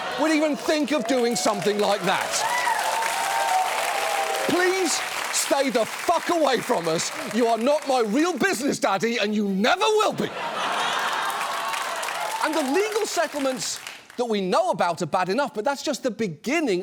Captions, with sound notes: would even think of doing something like that? (AUDIENCE CHEERING, APPLAUDING) Please stay the fuck away from us. You are not my real business daddy and you never will be. (AUDIENCE LAUGHS, APPLAUDS) And the legal settlements that we know about are bad enough, but that's just the beginning